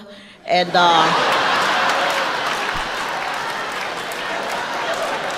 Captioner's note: audience laughing